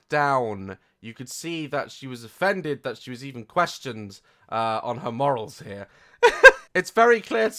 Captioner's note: laughs